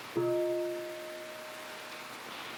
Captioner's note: half bell